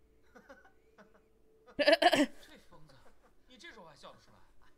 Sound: weird laugh

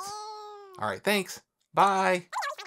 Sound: voice squeaking over phone

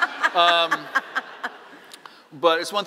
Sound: laughing

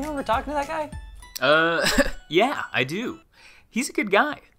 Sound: laughs

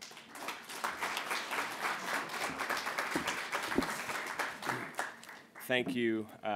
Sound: applause

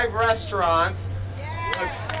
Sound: applause

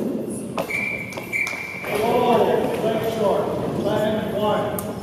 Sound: whistle

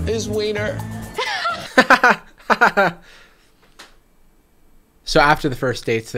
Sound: host fake laughing

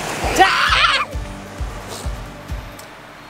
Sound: screaming

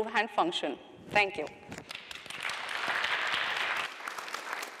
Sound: audience applause

